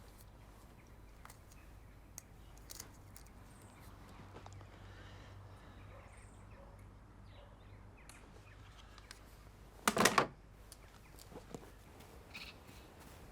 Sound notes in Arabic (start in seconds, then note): 9.8 قعقعة إطار الصورة